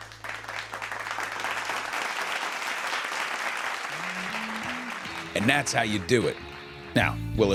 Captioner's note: applause